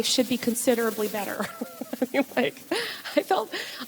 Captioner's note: laughs